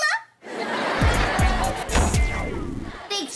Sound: door slams

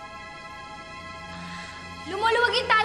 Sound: none

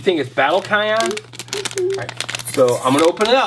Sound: bag crinkles

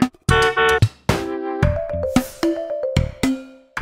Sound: car horn honks

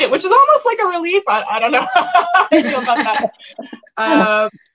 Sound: laughs; women laugh

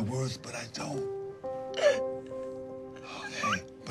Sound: Kalani sobbing

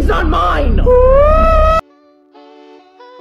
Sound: Fundy starts crying

